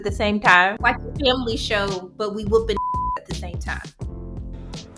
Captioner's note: beep